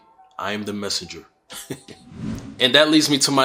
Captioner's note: chuckles